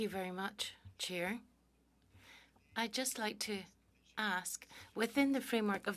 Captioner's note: speaking French